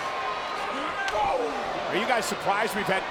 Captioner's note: fist smacks